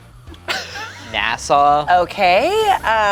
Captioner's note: laughs